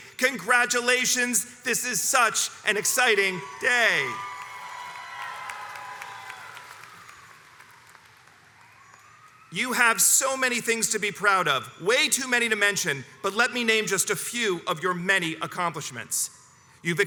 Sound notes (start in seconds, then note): 4.6 crowd applauds and cheers